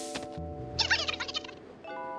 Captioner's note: high-pitched squabble